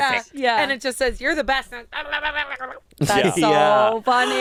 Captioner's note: grumbles